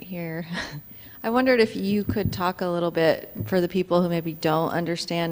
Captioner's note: laughs